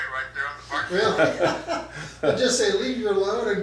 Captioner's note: laughs